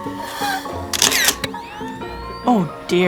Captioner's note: camera clicks